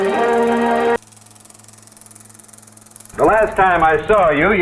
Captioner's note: old film reel noise